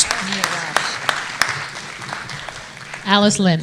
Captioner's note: audience applauding